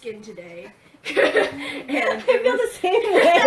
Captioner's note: laughing